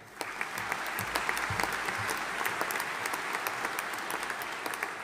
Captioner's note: audience applauding